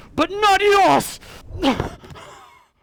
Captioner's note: grunt